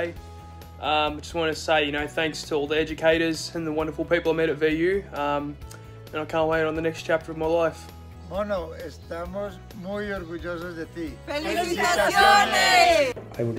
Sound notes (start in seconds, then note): 8.3 speaking in foreign language